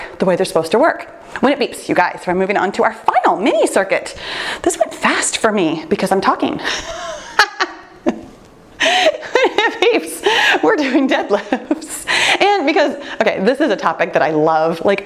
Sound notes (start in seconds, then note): 7.0 laughter